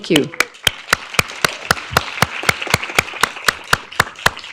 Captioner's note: audience applauding